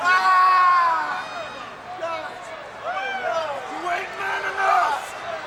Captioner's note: Ric Screaming